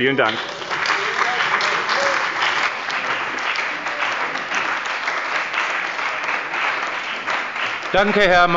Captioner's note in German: Beifall bei dem BÜNDNIS 90/DIE GRÜNEN und der CDU